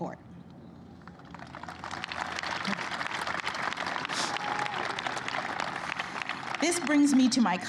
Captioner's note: applause